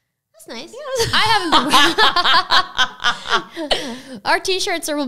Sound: laugh

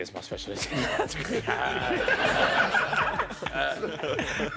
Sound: laughing

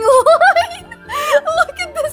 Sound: laughs

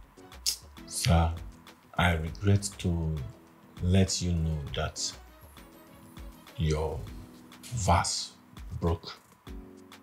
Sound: kisses lips

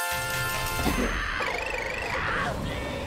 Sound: screaming

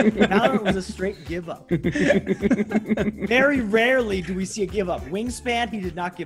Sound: laugh

